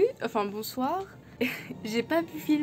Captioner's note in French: rire